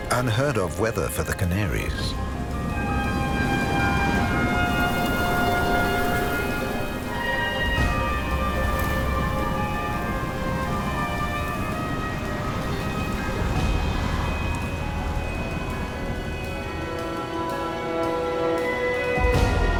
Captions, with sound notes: Unheard of weather for the Canaries. (wind whistling) (light dramatic music)